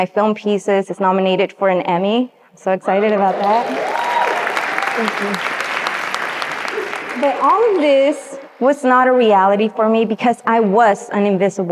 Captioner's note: audience cheers and applauds